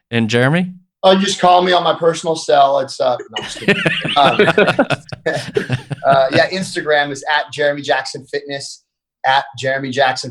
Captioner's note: laugh